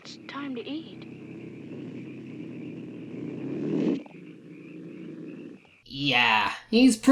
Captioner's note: Old Yeller still growling menacingly